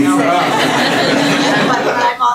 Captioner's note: laughter